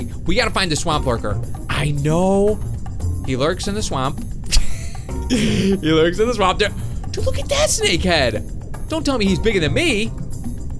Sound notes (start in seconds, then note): 4.5 laughs